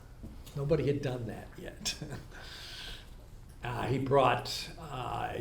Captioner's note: laughs